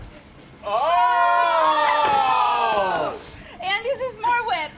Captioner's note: all chefs exclaiming